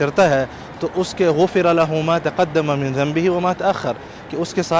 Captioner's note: Arabic